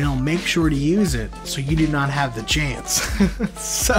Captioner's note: laughs